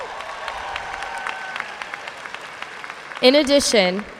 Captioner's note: audience cheering and applauding